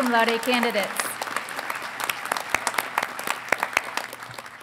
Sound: audience applauding

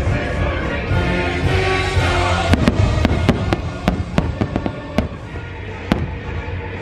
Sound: fireworks banging

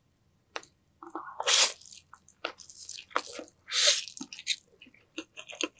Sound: suck, suck~

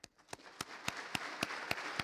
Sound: applause

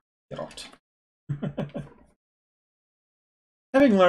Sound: chuckles

